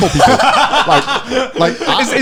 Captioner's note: laughing